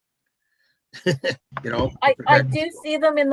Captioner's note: laughing